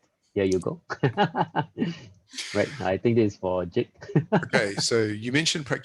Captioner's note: laughs